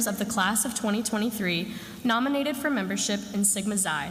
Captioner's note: none